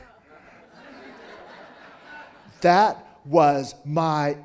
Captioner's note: audience laughing